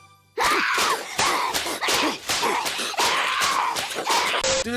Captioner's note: bright music; Chika screaming